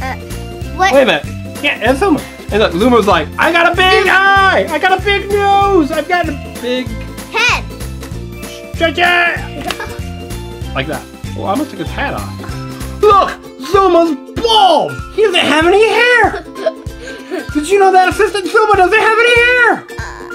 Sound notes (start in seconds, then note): 16.2 assistant laughing